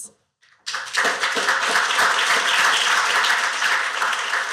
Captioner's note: applause